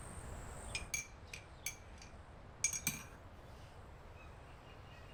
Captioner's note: crickets chirping; spoon clinking